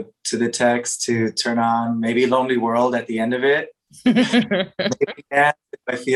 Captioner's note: laughter